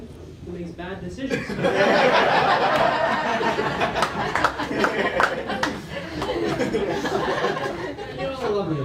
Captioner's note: laughter with Clapter